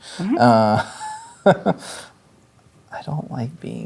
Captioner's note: chuckles